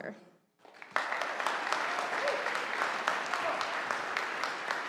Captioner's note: audience applauding